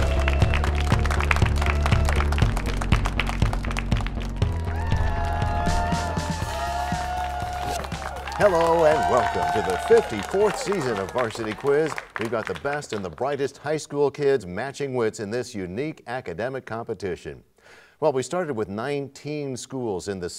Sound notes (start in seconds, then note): 5.6 cheers and applause